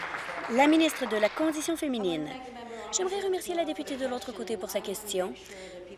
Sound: applause

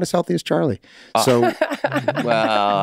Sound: laughs

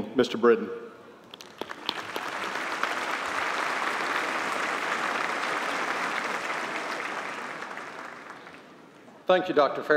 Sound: applause

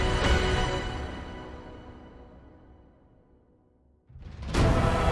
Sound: queue dramatic silence

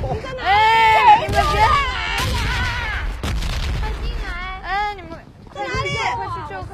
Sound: illegible screaming

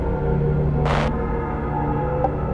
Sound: launch_deny1.wav

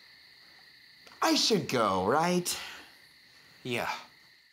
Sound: normal voice

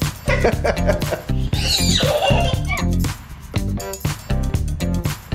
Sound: laughing; squealing

